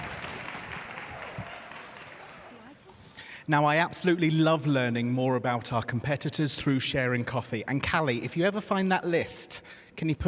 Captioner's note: applause